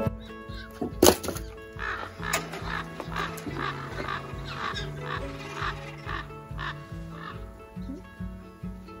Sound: ravens croaking sound

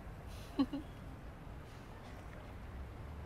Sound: chuckles

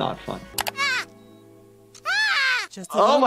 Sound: Kyle shouts

